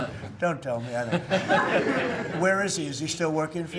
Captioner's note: laughter